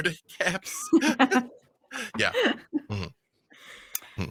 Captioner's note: laughing